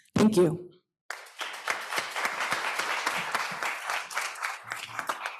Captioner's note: applause